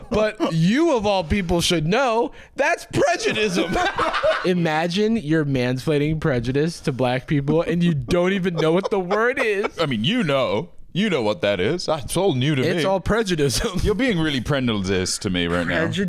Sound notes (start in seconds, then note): 3.2 laughs